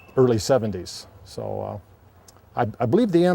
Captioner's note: none